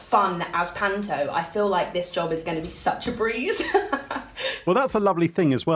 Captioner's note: laughs